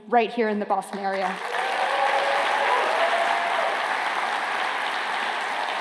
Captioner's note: applause